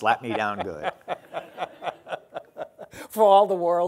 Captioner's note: laughing